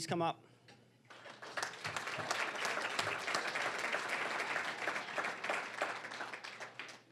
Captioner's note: applause